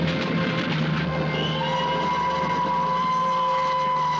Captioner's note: train whistle